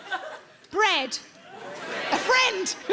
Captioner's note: audience laughing